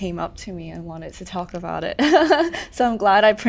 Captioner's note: laughs